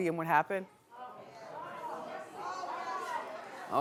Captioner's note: audience murmuring